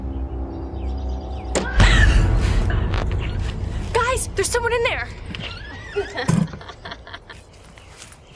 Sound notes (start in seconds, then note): 1.9 Ally shouts, Riley gasps; 5.8 Ally laughing